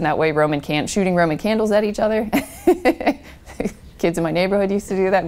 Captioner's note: laughs